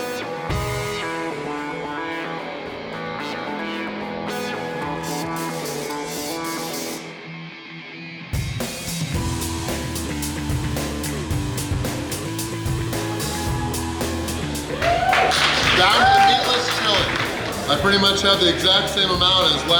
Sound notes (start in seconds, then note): 15.0 cheering